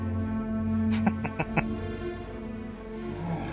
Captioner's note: chuckling